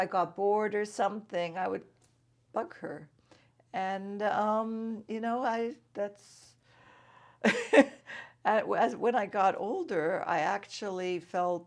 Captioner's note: laughs